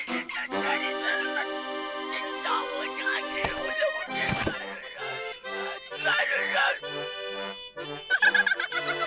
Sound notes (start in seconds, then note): 4.6 onion sobbing; 7.0 happy music; 8.0 laughing; 8.0 onion laughs